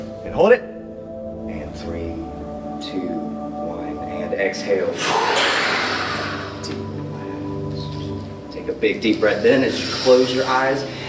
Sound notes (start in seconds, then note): 0.0 Adam inhales deeply; 4.8 Adam exhales